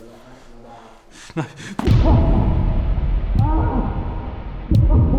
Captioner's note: groans in pain